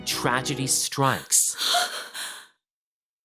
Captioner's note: gasping